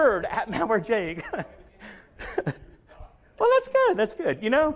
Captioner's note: chuckles